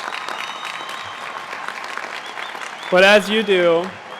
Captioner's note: applause